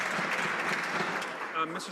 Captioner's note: some Applause